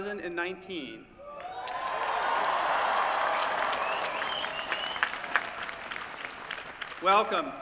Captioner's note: cheering